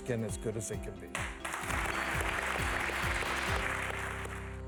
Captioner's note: audience claps